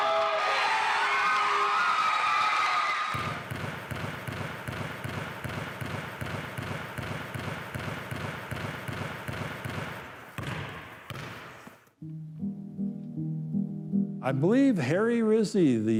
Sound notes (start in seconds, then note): 0.0 fans cheering; 3.1 basketball thumping; 12.0 gentle music